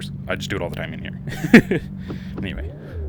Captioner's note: laugh